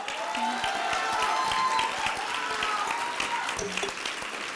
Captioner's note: applause and cheering